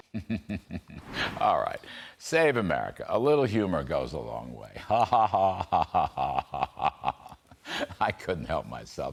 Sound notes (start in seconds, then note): 0.0 laughter